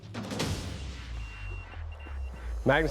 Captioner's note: beeping